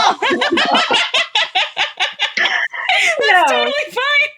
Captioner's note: both laughs